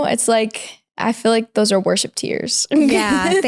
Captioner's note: laughs